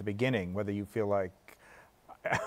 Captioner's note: chuckles